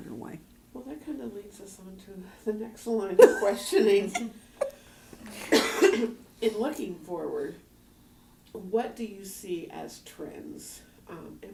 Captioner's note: laughter